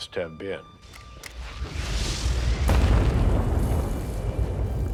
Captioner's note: bombs exploding